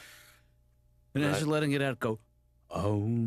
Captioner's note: inhales deeply